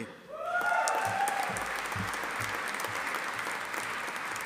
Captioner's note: audience applauding